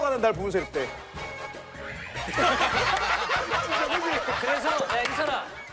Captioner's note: laughing